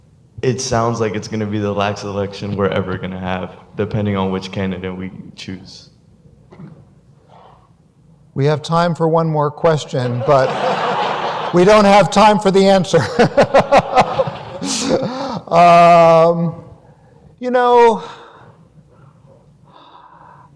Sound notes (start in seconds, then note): 9.8 audience laughter; 12.9 laughs